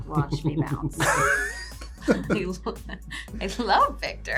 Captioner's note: laughs